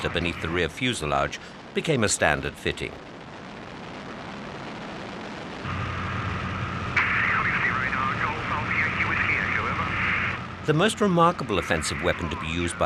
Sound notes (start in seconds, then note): 3.5 plane roaring